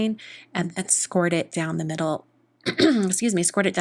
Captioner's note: clears throat